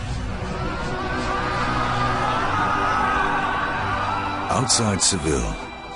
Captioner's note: shouting